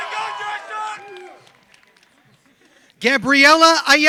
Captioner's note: applause